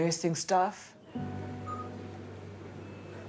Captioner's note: machine beeping